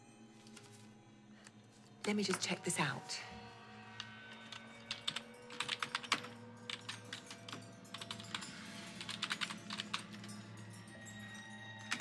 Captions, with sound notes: Let me just check this out. (keyboard clattering)